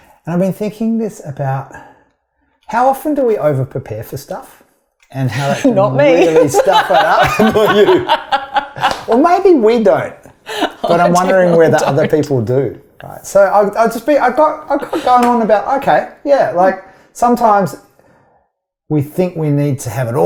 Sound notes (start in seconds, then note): 6.0 both laugh; 6.0 laughs